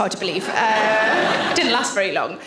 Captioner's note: audience laughing